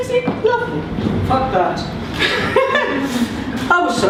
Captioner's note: laughter